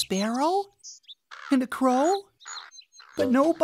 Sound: chirping of sparrow; cawing of crow

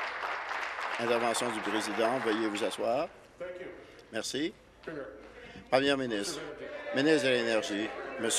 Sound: applause

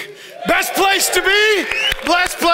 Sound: audience applauds and cheers

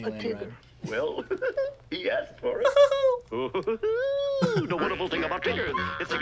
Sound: giggles

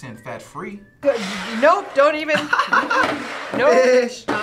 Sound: laughs

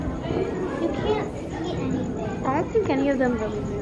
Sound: child's Voice

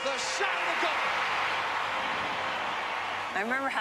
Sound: cheering

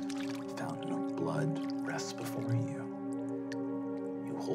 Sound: splashing

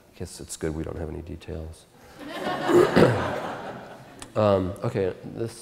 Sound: audience Laughter

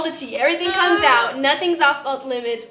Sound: gags

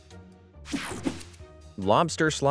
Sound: transition zapping

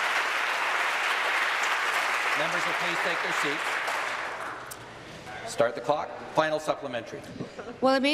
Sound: applause

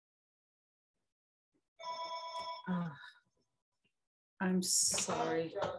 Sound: phone rings

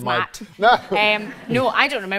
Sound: laughs

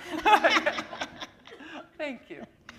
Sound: chuckle

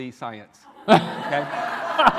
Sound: laughter

